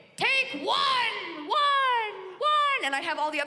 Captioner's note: mimicking echoes